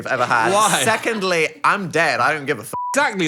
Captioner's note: beep